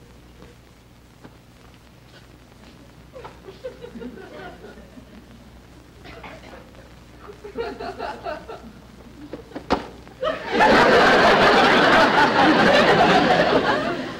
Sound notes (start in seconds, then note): 9.6 smack; 10.2 audience Laughing